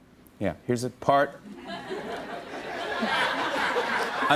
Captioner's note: laughter